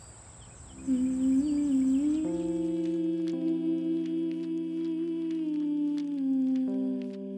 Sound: humming & pages turning

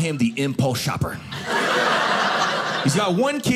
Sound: audience laughing

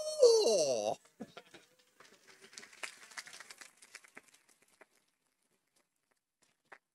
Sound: laughing; audience applauding

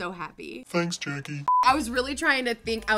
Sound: short beep

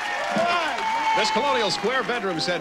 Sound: audience applauding

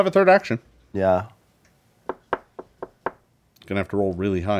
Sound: knocking on table

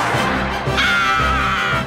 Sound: screaming

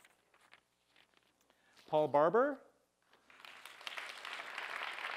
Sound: applause

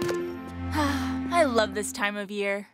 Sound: sighs

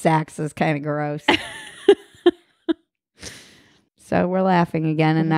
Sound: laughing

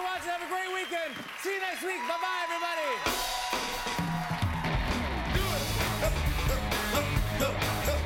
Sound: cheers and applause

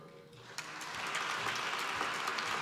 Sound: applause

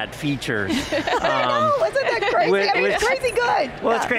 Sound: laughs

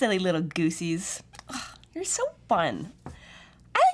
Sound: sighs

